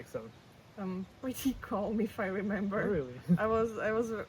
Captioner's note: car passes; laughs